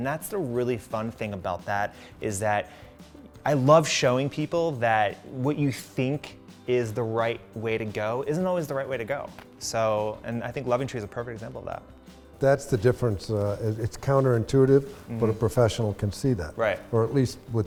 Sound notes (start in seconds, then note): none